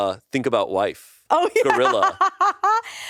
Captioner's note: laughs